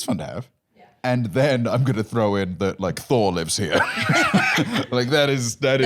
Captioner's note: laughs